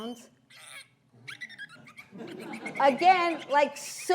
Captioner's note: cute little dolphin sounds